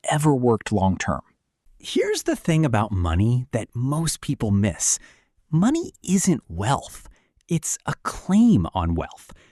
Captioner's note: thoughtful